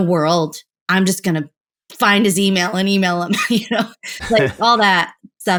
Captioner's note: laughter